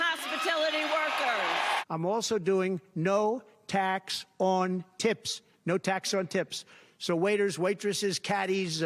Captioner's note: cheers and applause